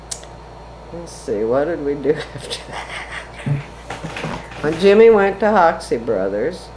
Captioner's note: laughs